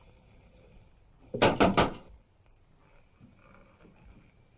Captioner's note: knocking